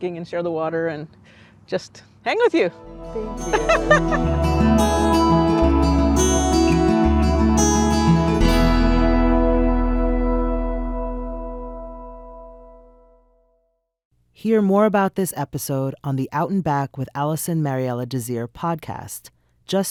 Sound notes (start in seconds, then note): 3.3 laughs; 5.4 uplifting music